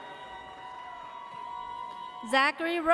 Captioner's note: audience cheers